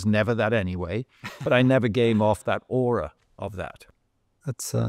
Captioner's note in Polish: śmiech